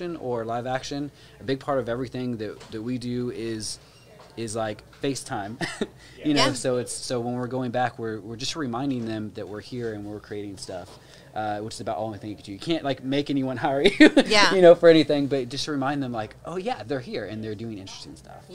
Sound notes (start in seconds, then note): 5.6 chuckles; 13.8 laughs